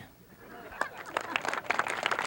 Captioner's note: audience chuckles; audience applauds